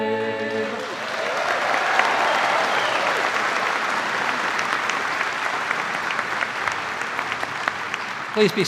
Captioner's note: cheers and applause